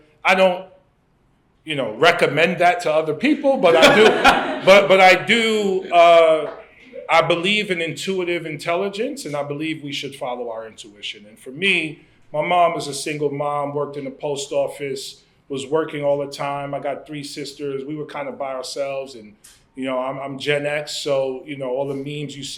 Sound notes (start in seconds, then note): 3.5 laughter